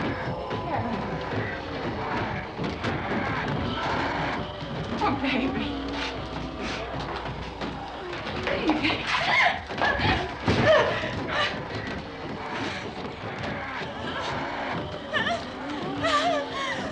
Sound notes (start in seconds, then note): 9.4 gasping